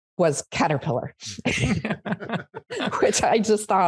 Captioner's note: laughter